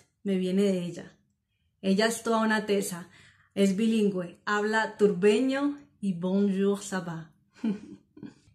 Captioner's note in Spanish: risas